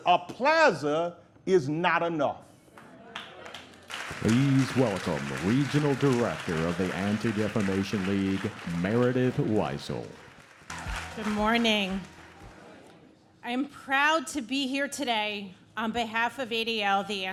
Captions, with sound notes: A plaza is not enough. (audience claps) - Please welcome Regional Director of the Anti-Defamation League, Meredith Weisel. (audience claps) - Good morning. - I am proud to be here today on behalf of ADL,